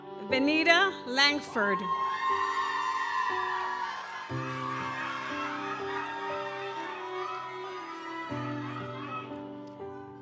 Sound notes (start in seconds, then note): 1.5 audience cheers; 3.4 gentle music continues